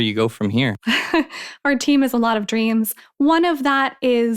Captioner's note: laughs